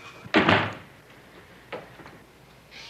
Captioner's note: door slam